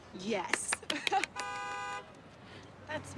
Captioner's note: claps; car horn blares